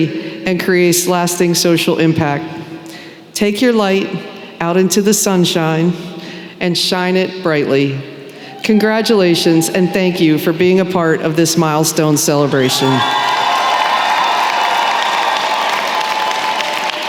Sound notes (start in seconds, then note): 12.5 applause